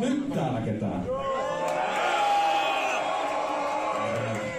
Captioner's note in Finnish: yleisö huutaa